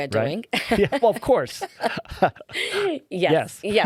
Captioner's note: laughing